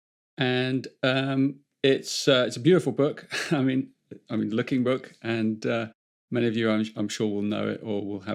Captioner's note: chuckles